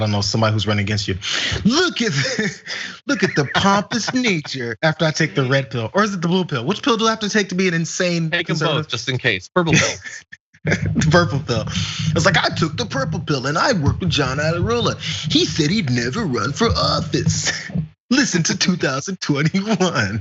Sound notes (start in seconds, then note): 1.3 laugh; 9.6 laugh